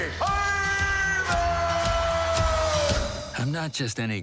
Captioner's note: audience cheering